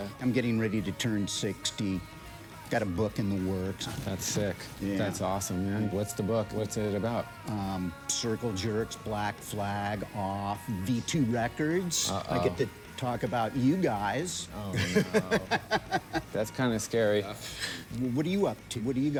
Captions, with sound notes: - I'm doin' pretty good. - Yeah? - I'm getting ready to turn 60, got a book in the works. - That's sick. - Yeah. - That's awesome, man. What's the book, what's it about? - Circle Jerks, Black Flag, Off, V2 Records. - Uh-oh. - I get to talk about you guys. (laughs) - Oh, no! That's kinda scary!